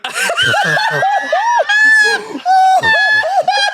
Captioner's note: everyone laughs